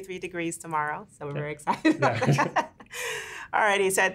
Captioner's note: laughs